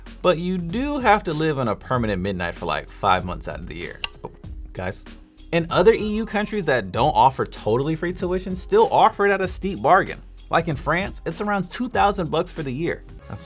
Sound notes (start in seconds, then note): 4.0 light switch flicks